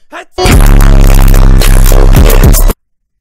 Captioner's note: earrape + cute fake sneeze